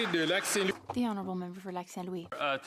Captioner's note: some Applause